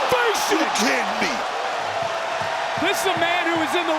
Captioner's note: crowd cheer